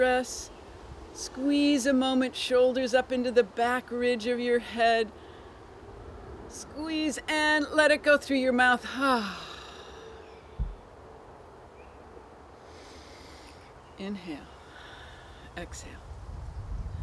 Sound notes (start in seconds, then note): 12.6 exhale... inhale, exhale